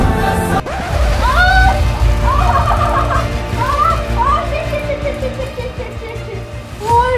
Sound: shouting intensifies

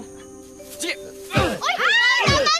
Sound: grunting; Bunny screams

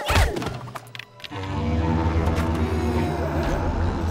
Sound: horn blowing; whimpers

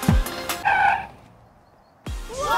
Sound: braking

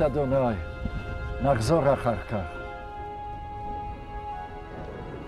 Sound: speaking in Hebrew

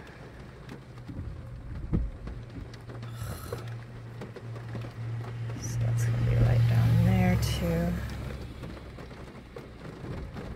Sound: irritated sigh

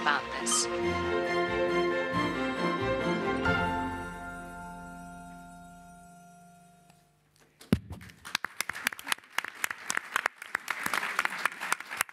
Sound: applause

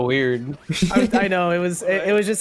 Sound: giggle

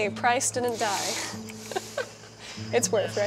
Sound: laughs

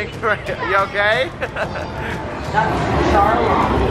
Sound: laugh

